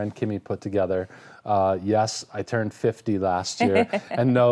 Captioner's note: laughing